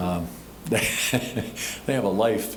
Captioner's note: laughing